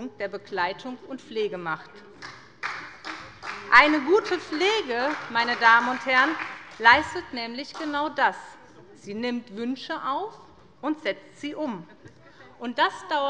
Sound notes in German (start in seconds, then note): 2.1 Beifall bei der SPD